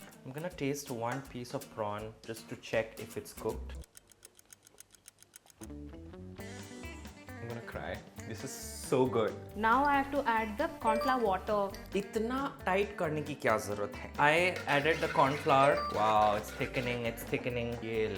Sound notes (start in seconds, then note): 3.8 clock ticking; 5.8 funky music